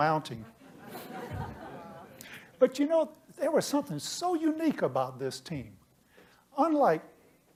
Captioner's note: laughter